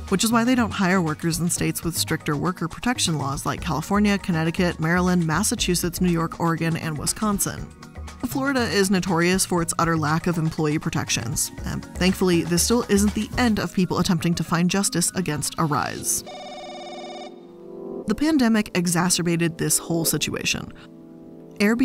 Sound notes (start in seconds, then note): 16.0 gentle music; 16.2 telephone rings